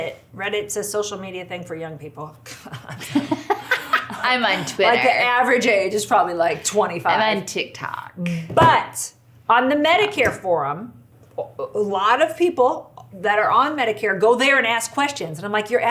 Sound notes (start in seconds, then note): 2.8 laughs